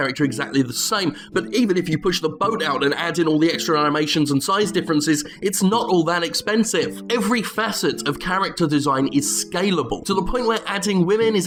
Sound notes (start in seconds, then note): none